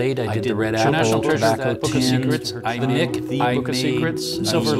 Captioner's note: chatters